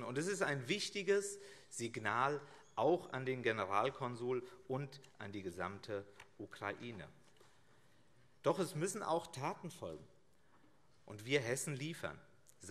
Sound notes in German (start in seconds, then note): none